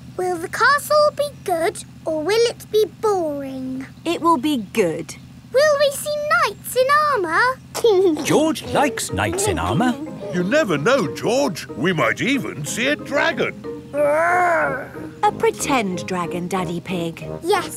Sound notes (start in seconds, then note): 8.2 giggling